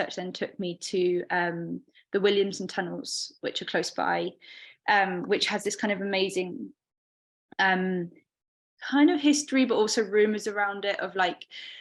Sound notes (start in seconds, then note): none